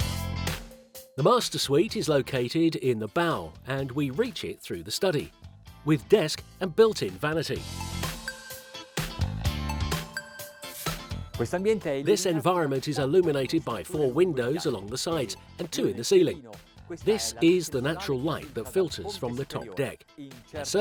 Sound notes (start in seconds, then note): 7.7 upbeat music; 11.5 speaking foreign language